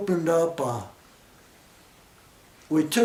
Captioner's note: pause